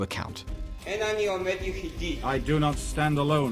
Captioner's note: speaking Hebrew